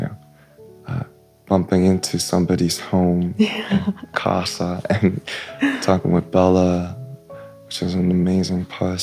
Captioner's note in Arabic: ضحك